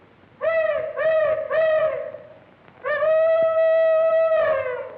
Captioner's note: hollering